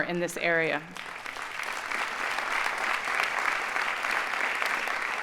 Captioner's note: audience applauding